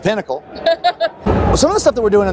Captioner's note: woman laughs